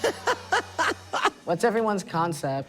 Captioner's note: laughs